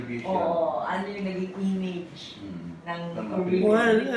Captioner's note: chatter